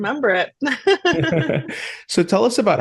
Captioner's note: both laugh